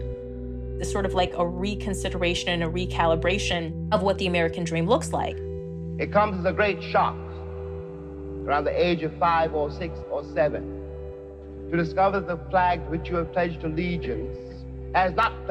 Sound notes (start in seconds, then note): 5.8 soundbite of archived recording